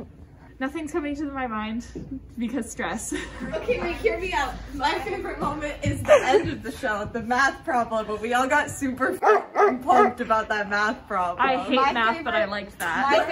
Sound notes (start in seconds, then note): 9.2 bark bark